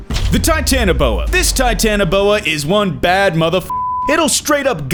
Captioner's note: beep